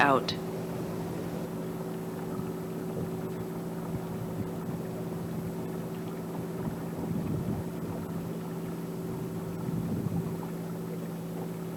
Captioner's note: water sounds